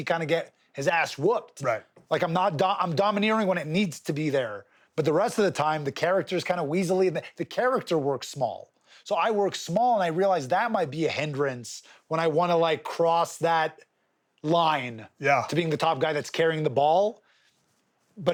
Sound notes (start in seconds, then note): none